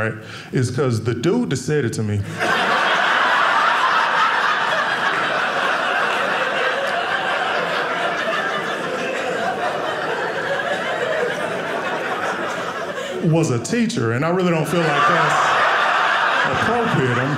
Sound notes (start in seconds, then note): 2.2 audience laughing